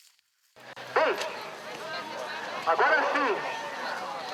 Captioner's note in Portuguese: Burburinho de feira; Voz no alto-falante